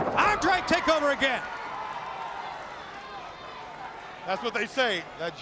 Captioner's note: crowd cheering